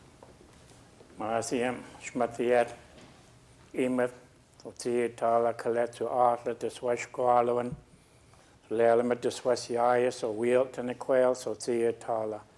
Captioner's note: speaking a local Indigenous language